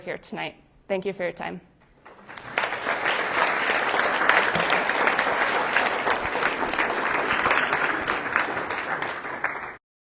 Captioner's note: applause